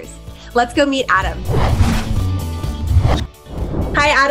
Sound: whooshing

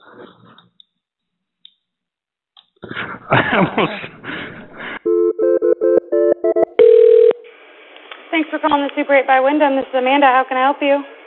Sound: phone ringing

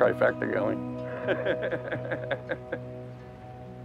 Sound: laughs

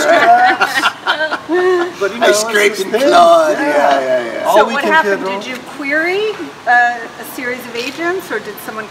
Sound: laughter

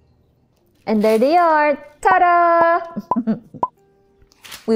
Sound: chuckles

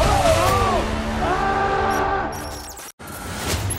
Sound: intense string music; yelling

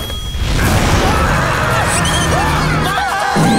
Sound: screaming

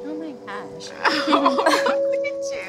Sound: laughs

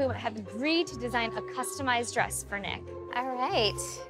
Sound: none

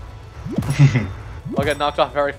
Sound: giggle

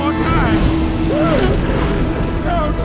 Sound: thunder rumbles

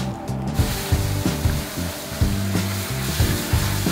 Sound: water splashing; serene music

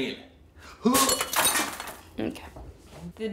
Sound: grunting

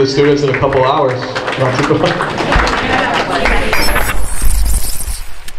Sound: group applauds

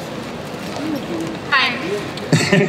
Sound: voiceover

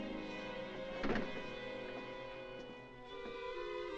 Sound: ominous music; door closes; ominous music

